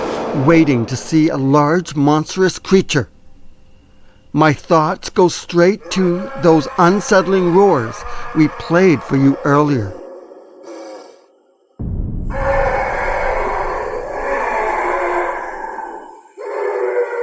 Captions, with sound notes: waiting to see a large, monstrous creature. My thoughts go straight to those unsettling roars we played for you earlier. (eerie music) (roaring)